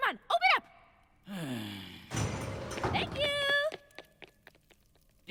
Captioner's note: sigh